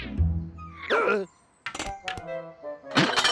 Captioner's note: gasps